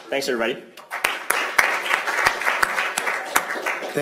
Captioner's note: applause